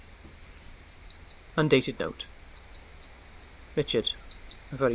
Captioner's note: twittering of flycatcher